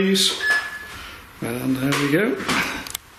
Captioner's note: beeping